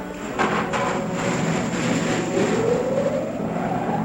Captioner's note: whirring